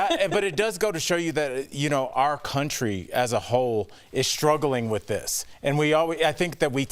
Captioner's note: laughter